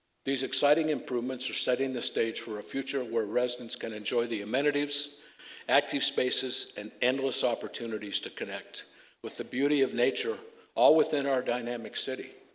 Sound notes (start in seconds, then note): none